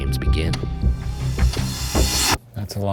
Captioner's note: timer clicking